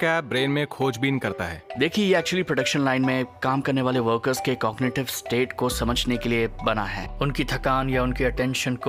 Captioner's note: speaking mandarin